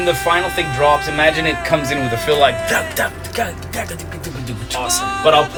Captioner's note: mimics drums